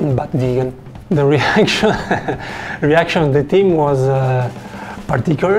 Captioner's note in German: lacht